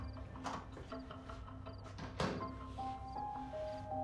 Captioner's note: door clicking